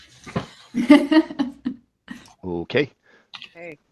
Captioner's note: laughs